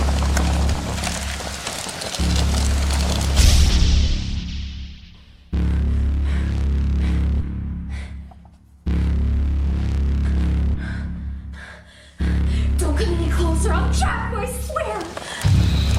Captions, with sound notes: (Fire crackles intensely) (Fire whooshes) (Crystal breathes heavily) Don't come any closer. I'll chop you, I swear!